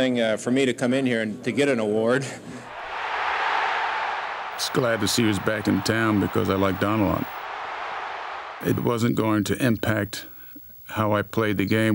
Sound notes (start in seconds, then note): 2.6 crowd cheering